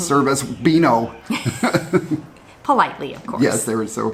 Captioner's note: both laugh